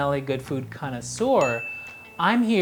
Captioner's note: bell dings